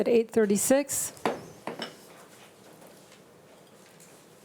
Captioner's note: gavel thuds